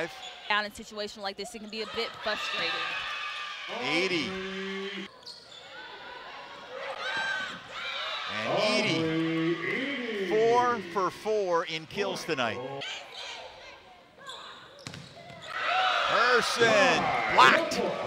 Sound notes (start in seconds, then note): 12.6 players shouting